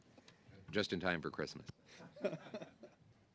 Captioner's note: laughter